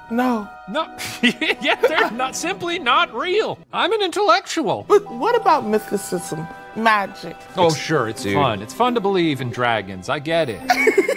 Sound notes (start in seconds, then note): 1.0 laughs; 10.6 laughs